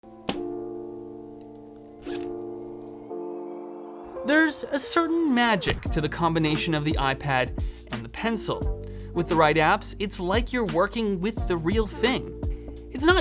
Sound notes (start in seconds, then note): 0.1 gentle music; 2.0 zipper unzips